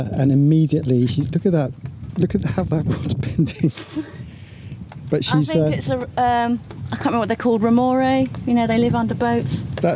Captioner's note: laughs